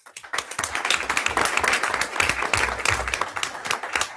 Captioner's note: everyone applauds